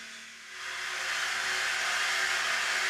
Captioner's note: rattling, whirring